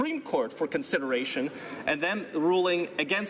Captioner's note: none